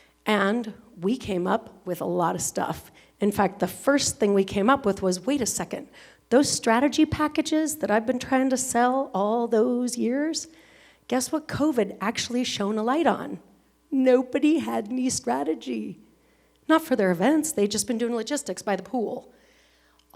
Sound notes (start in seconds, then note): none